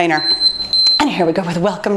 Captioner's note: beeping